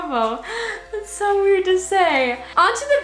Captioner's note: gasps